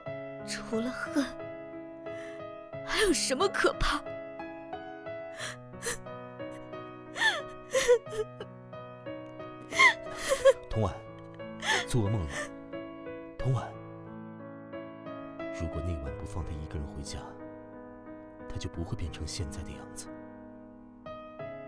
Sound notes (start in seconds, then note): 5.4 sobbing... sobbing; 7.6 sob... whimper; 7.7 whimper... whimper